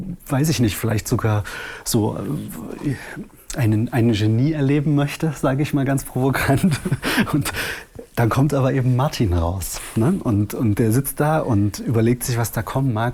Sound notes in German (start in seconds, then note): 6.4 lacht